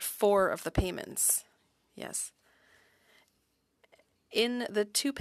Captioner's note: speaking French